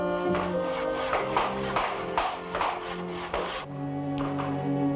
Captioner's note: hammer bangs; somber music